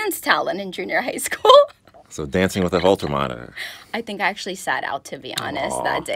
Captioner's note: laughter